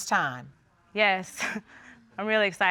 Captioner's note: chuckles